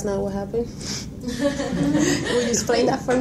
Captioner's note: laughing